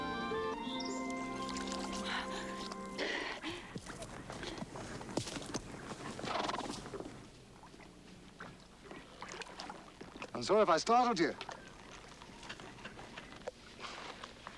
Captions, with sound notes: (water splashing) (horse nickering) - I'm sorry if I startled you.